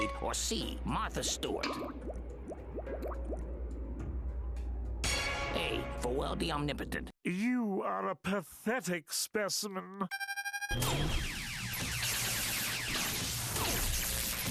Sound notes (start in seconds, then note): 10.1 electronic beeping